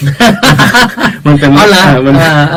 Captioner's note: both laughing